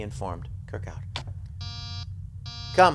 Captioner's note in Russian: дверной звонок